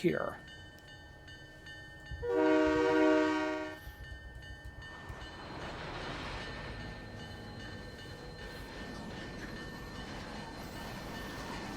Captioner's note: train whistle